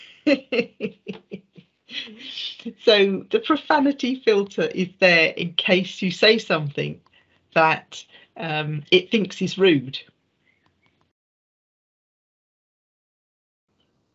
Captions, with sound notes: (laughing) So the profanity filter is there in case you say something that it thinks is rude.